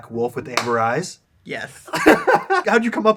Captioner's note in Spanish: risas